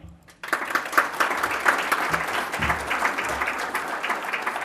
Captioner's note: applause